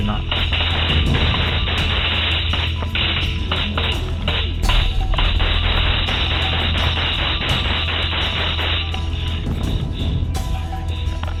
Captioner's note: gun fire